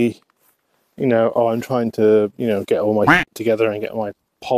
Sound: quack

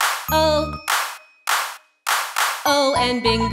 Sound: claps, claps, claps, claps; claps, claps, claps, claps

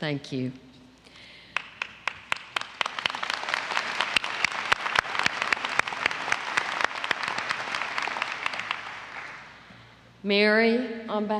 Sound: applause

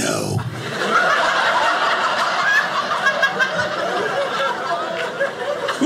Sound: audience laughing

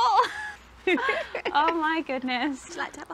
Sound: both laugh

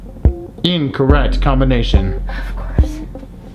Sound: male Voice

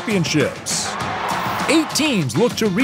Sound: people cheering

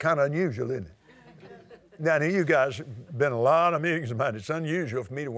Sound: laughter

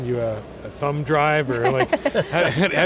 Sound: laughter

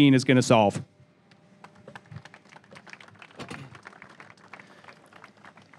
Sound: audience applause

